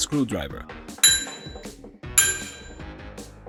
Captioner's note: bell Sound